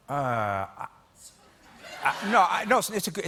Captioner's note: laughter